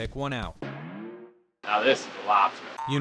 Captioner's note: boing